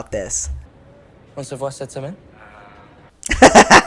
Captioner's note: Nick speaking French